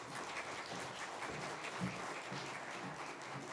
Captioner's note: applause